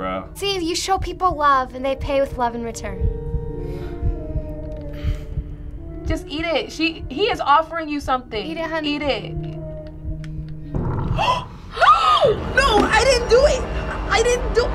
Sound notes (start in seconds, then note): 11.1 gasping